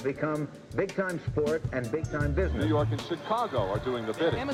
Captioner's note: man over TV